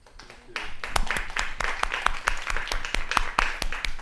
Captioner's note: clapping